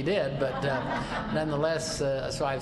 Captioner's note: laughter